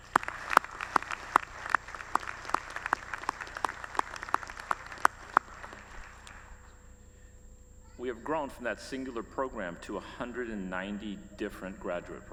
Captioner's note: applause